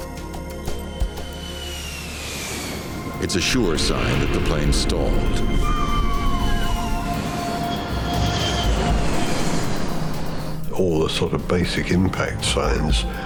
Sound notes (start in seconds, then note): 2.3 plane roaring; 6.2 wind whistling